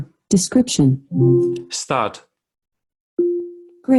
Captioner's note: electronic beep